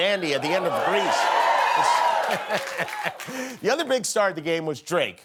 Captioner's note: cheering